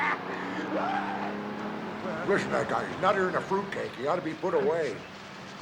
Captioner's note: shouting in spanish; shrieking